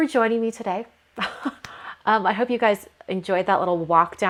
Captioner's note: laughs